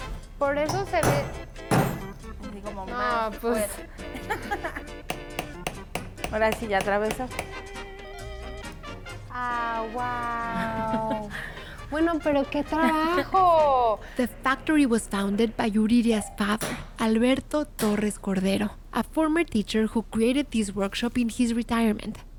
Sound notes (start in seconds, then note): 3.5 laughs